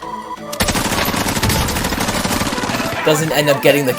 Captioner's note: gun firing